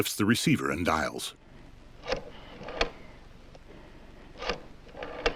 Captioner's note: rotary dial whirring